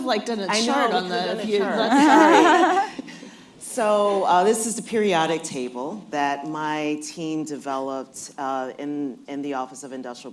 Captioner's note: laughter